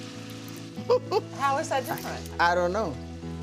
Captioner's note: laughs